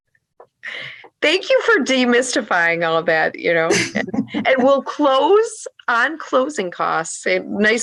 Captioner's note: laugh